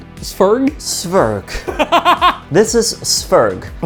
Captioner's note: laughing